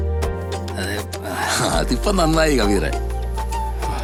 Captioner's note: sarcastically